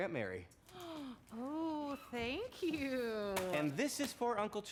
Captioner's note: gasps